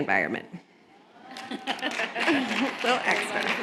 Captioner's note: applause